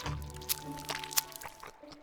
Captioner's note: crunch; squelch